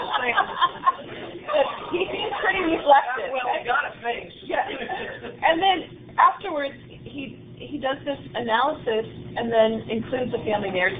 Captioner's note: laughing